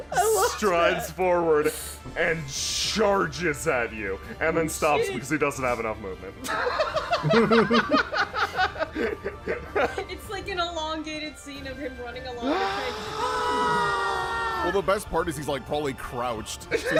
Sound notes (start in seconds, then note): 6.4 laughter